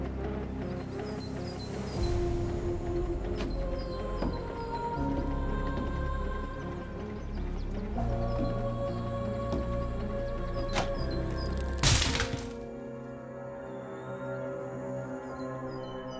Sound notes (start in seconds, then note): 0.2 singer vocalizing; 0.2 soft tense upbeat music; 10.7 wood cracking; 10.7 lock clicking; 13.2 soft tense music